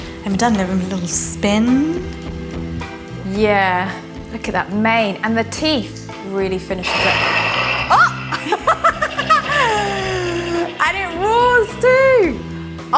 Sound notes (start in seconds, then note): 6.8 chocolate dragon roars; 7.8 laughs